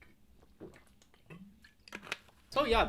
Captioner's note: water glugs